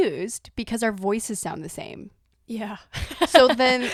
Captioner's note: laughs at the confusion